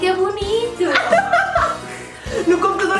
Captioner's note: laughs